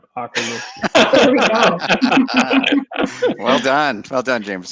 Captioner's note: laughing